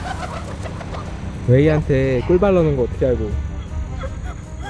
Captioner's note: haha